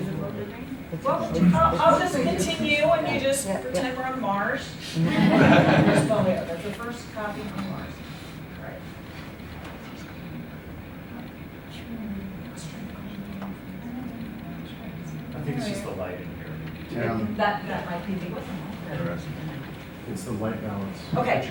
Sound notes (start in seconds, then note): 4.9 laughter; 7.3 murmuring continues